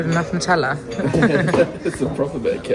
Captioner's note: both chuckle